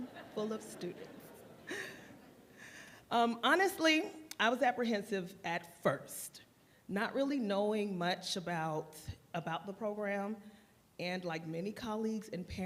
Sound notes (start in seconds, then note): 1.6 laughter